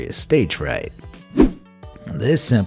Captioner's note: air whooshing